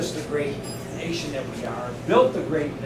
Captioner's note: elevator bell